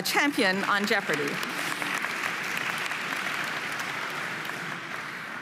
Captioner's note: audience applauding